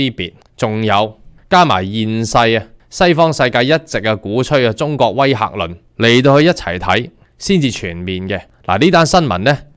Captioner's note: Cantonese